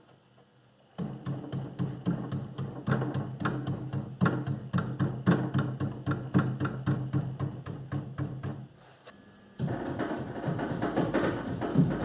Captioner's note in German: Arbeitsgeräusche